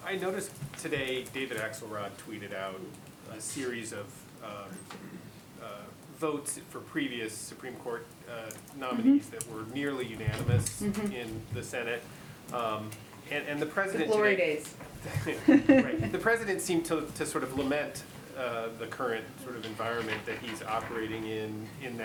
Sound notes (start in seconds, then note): 15.0 laughter